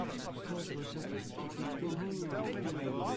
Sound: faint chattering

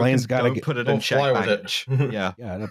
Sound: chuckles

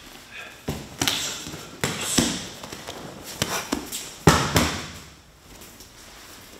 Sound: jabbing and body smacking into the ground

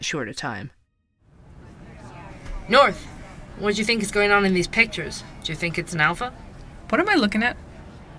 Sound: ambience - Coffee Shop

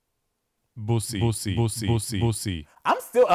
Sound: man stammering

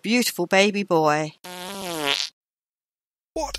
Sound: passing wind

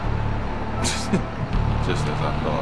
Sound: chuckle

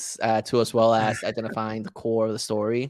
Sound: chuckling

